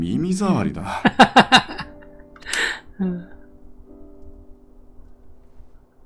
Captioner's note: laughs